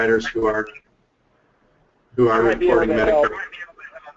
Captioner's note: voiceover